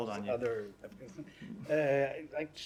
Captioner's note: laughter